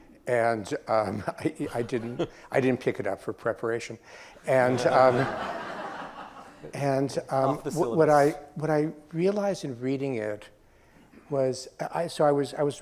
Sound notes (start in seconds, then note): 4.5 audience laughs